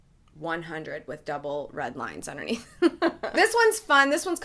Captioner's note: laughs